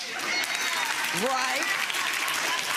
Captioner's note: clapping